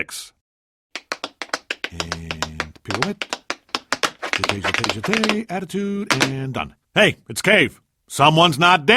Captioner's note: tap dancing noises